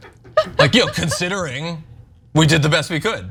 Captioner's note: laugh